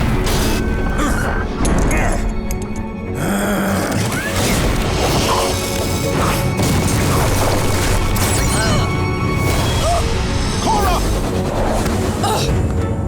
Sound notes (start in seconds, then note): 0.3 grunting; 3.2 growling; 7.9 groaning; 11.9 groaning